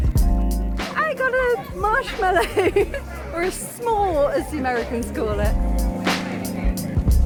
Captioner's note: laughing